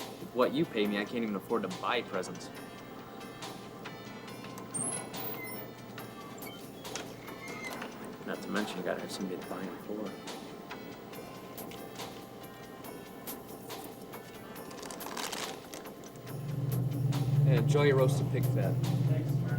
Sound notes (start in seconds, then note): 3.0 upbeat holiday music; 15.3 bag rustles